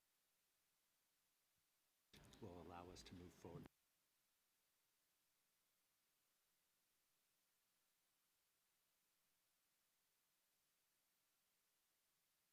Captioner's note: silence